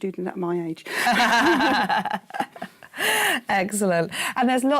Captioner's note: laughing